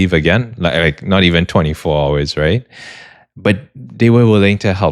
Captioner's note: gasps